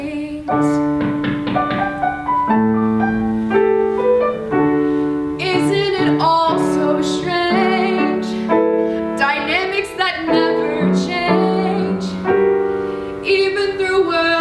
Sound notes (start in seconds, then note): 0.9 knock at door